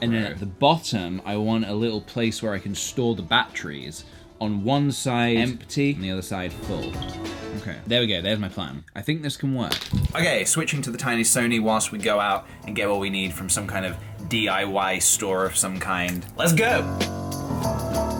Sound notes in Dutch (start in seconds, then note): 9.7 gekletter; 16.0 snap